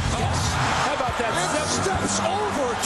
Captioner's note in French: la foule crie, d'autres le hue